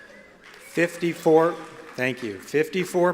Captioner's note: applause